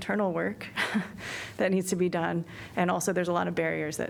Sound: laughter

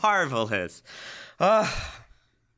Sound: chuckles; laughs

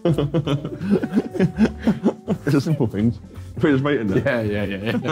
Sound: laughing; laughing

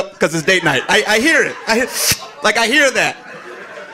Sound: sucks in air

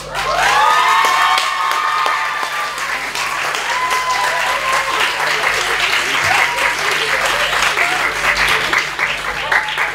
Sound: applause

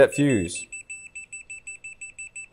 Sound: high pitch beeping sound

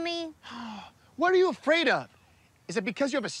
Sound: sighs

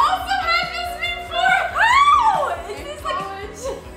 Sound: yells

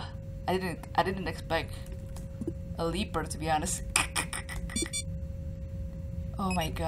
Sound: laughes in cringe

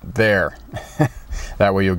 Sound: chuckles

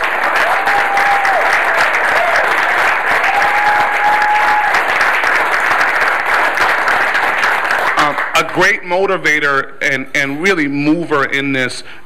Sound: clapping

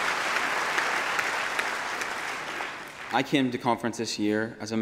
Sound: applause

